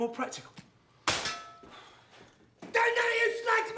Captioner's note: metal clinks